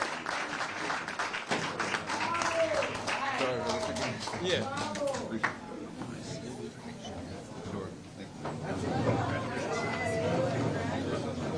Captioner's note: cheers & applause